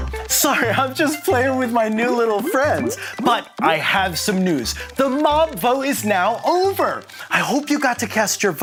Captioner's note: laughter